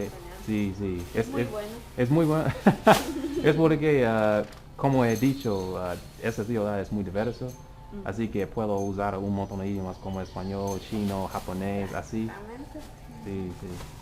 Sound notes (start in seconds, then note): 0.0 spanish